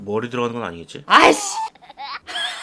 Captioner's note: annoyance